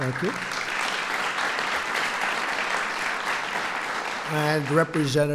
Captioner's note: applause